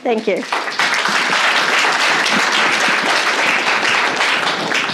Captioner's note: applause